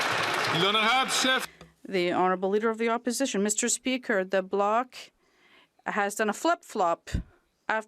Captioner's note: some Applause